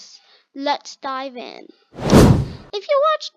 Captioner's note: wave Wooshing Sound Effect